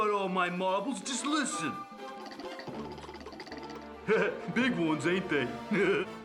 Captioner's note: laughing; rattling sound